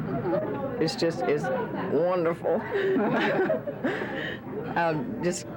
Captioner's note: laughs